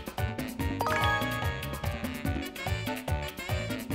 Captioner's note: music intensifies; leaderboard chimes